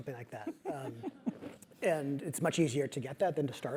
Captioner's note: laugh